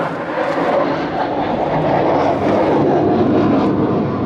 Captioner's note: airplane whooshing